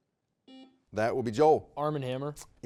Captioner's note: buzzer beeping